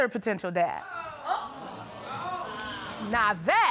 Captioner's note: audience gasps